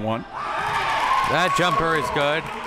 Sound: spectators cheering

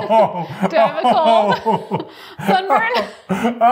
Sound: laughing

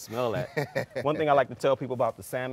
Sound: laughing

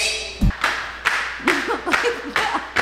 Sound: shoes slapping; laughing

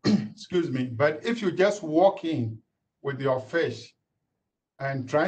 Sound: cleared throat

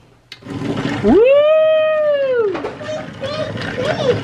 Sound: cheering

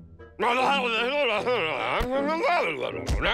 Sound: continues muttering

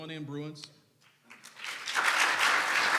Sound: clapping

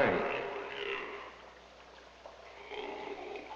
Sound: grunting

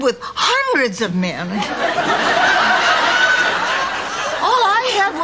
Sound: audience laughter

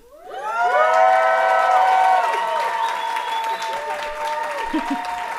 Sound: audience applauding and cheering

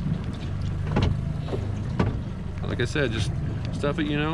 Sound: boat engine idling

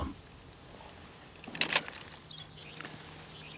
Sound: camera clicks

